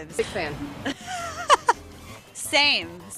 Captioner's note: laughs